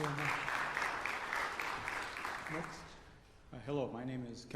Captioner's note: applause